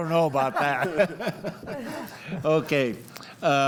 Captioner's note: group laughs